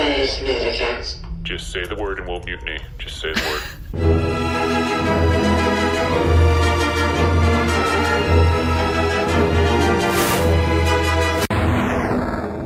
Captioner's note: whispering to the crew